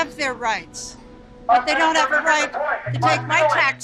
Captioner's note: man shouting in a megaphone in the background